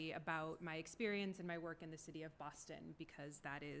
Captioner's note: none